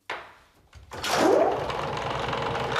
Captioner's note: engine starts